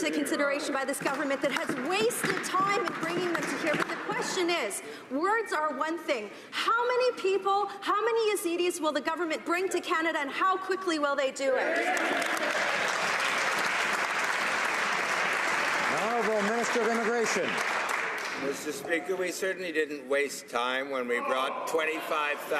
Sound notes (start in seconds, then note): 16.7 some Applause